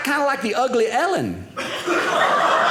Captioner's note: audience laughing